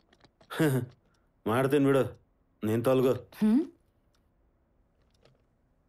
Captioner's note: scoffs